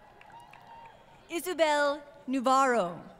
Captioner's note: applause